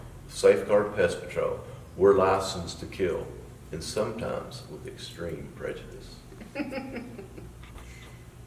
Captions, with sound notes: Safeguard Pest Patrol. We're licensed to kill and sometimes, with extreme prejudice. (laughing)